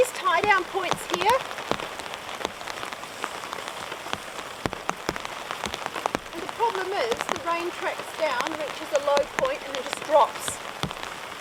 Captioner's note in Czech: zvuky deště